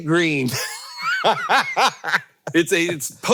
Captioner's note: Hank laughing